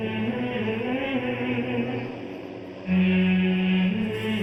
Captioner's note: poignant humming